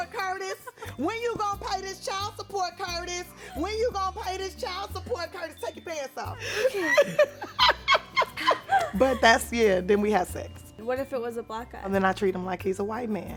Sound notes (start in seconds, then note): 0.2 Esther laughs; 6.4 both laugh